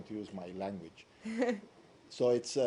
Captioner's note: laughter